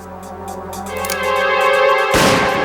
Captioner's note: click